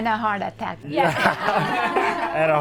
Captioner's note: all laugh